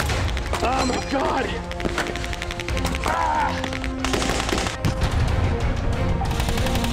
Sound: screams

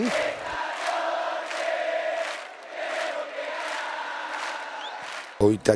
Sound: crowd cheering

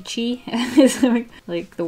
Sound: laughs

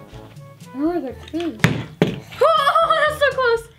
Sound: bottle landing

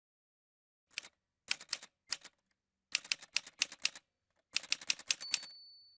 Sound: typewriter sounds

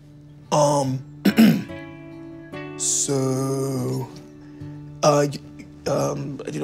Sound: coughing

